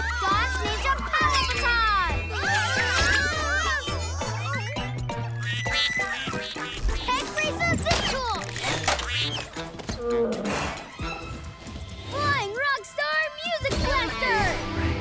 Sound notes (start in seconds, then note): 5.4 quacking; 10.0 sighs